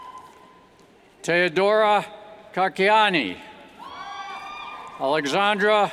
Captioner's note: cheers; cheers